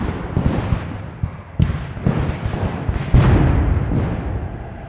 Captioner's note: guns fire